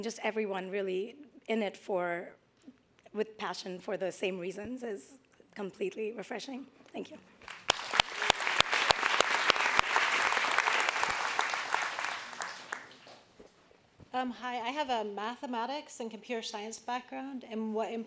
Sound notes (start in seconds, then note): 7.4 audience applauds